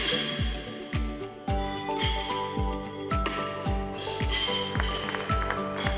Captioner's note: horseshoes clanking; mellow music; horseshoes clanking; audience applauding